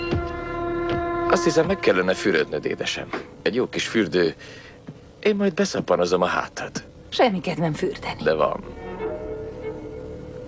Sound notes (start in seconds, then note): none